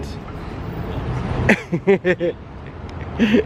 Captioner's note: giggles